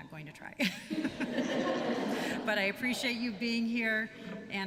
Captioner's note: laughter